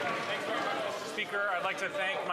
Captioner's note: some Applause